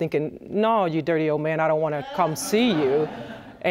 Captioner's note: audience laughing